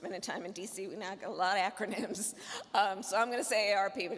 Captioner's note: chuckling